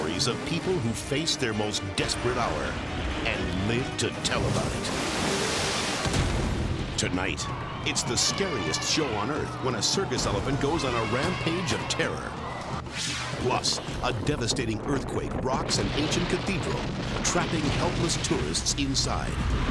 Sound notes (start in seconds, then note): 4.7 water bank crashing; 6.1 building exploding; 8.6 elephant trumpeting; 12.7 dramatic whoosh; 19.4 cathedral rumbling